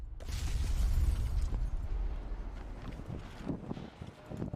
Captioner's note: submarine crashing